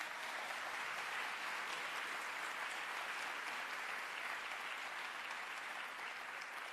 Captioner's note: applause